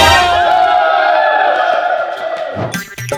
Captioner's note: screaming